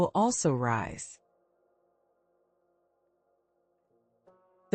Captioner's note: pause